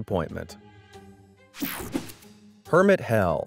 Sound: transition zapping

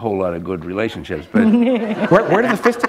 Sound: laughter

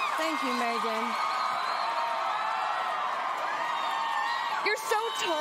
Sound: cheering

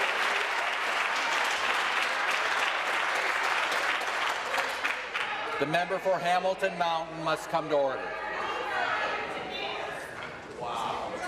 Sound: applause

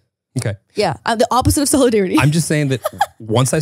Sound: laughs

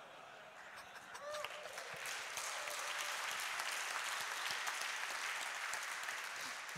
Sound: audience laughs and applauds

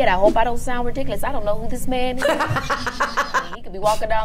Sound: laughs

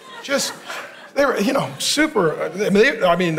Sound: stuttering

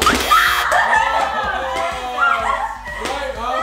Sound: buzzer; screaming; laughing and cheering

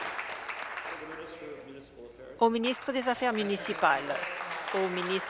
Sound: applause

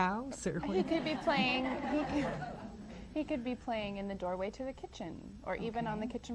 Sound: audience laughs

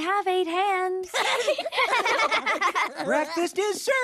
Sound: chuckles

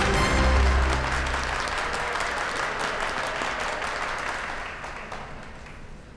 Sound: audience applause

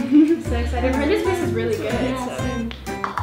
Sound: giggling; cheerful music

